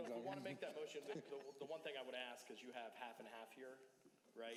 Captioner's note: laughter